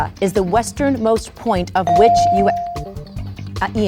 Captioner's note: bell dings